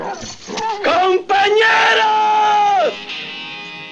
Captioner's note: Spanish spoken audio